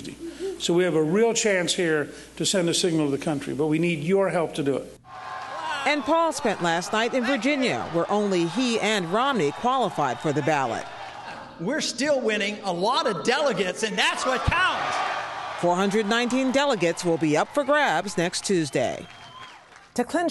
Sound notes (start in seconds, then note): 14.0 cheering and applause